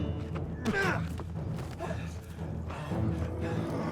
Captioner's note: swords clanging; fighters grunting; Kjartan groans